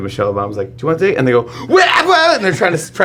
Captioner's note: startles